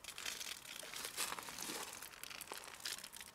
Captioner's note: water pours